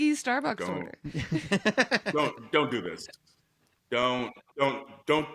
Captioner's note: laugh